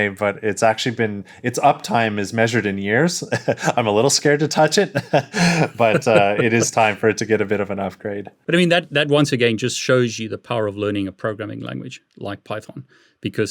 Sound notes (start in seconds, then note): 3.2 chuckles; 4.7 laughs